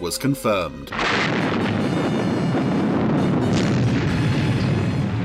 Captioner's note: explosion booms